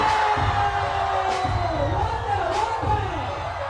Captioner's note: crowd cheers